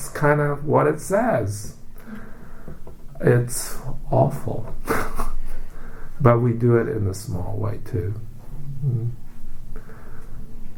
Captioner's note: laughs